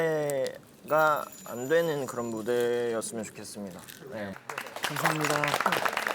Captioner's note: cheers them on